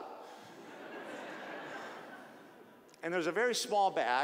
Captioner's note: audience laughing